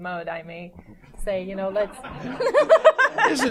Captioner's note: laughter